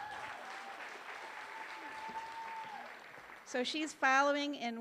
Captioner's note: applause